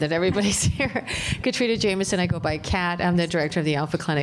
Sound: laughter

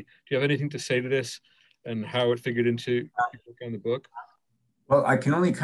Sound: murmurs

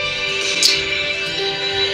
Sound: annoyed tongue clicking

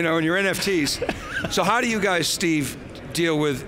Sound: chuckles

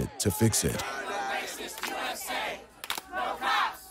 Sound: chanting

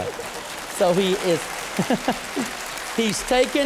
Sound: applause; laughter

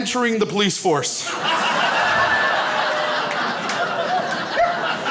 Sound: crowd laughs

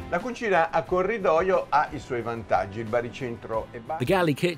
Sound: speaking in foreign language

